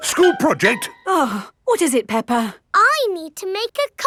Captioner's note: gasps; sighs